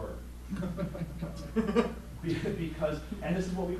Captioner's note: laughing